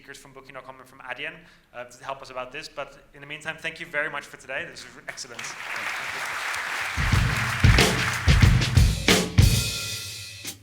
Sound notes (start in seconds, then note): 5.0 applauding; 7.2 energetic drum music